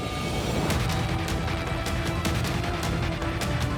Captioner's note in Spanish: ruido del helicóptero; ruido de los vehículos